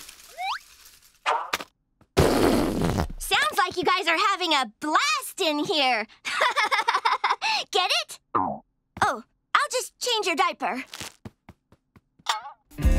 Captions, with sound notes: [whoopie cushion farting] Sounds like you guys are having a blast in here! [laughing] Get it? Oh. I'll just change her diaper.